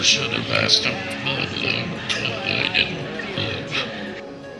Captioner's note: man murmuring